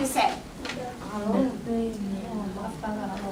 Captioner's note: spanish Spoken